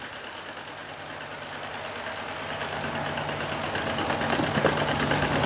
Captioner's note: engine rumbling